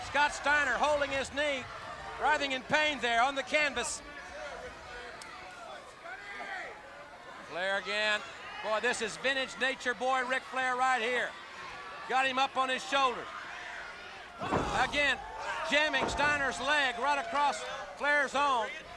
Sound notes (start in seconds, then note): 4.4 crowd chattering